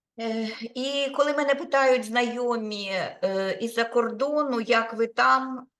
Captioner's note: speaking Ukrainian